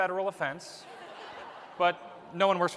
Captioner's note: laughter